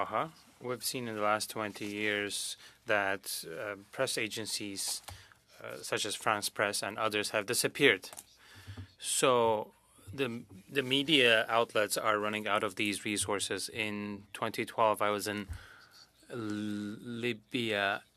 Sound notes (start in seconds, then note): 0.7 speaking French